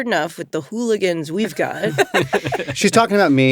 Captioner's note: laughter